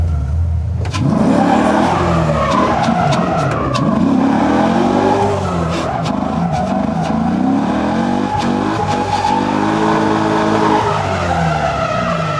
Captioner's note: tires screeching; engine revving